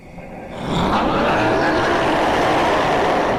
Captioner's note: filer screams